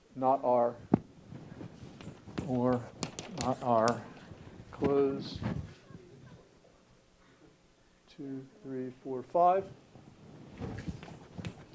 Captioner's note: laugh